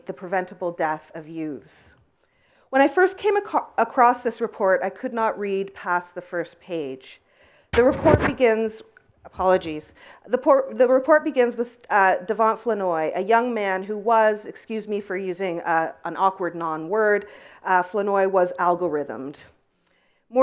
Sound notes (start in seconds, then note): 7.7 mic scratch